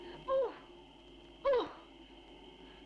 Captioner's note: audibly struggling